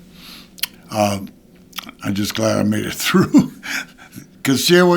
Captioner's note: chuckling